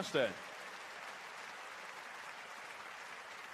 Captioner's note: applause